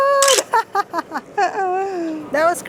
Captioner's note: chuckles